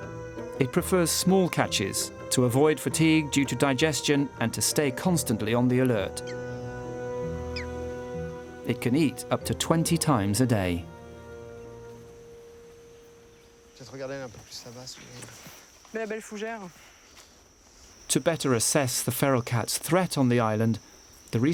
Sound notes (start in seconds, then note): 14.0 speaking foreign language